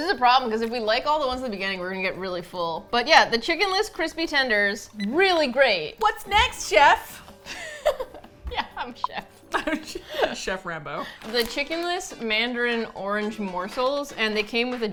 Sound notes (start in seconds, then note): 7.4 laughs; 9.5 laughs